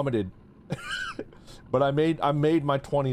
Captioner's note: laughs